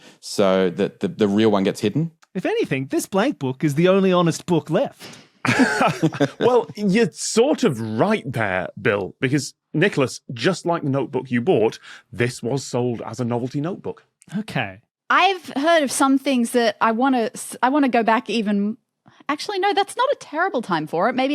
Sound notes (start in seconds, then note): 5.4 blurts laugh; 5.4 chuckles